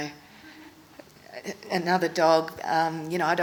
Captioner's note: hesitates